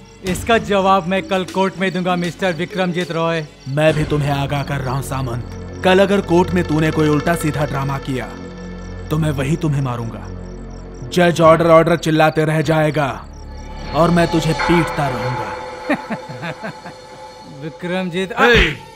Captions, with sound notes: I'll give you the answer in the court tomorrow, Mr. Vikramjit Roy. I'm also warning you Samnta Roy that if you put up any drama.. ..at the court tomorrow then I'll kill you right there. The judge will keep shouting 'Order, Order'.. ..but I'll kill you without any order. [Laughs] Vikramjit.. - Hey!